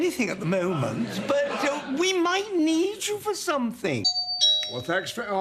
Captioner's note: doorbell